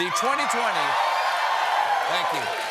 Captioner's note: cheers and applause